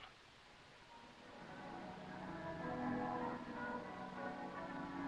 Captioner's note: bells pealing